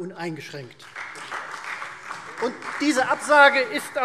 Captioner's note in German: Beifall Freie Demokraten und vereinzelt CDU